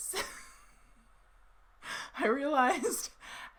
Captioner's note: laughs